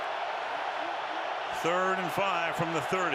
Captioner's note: cheering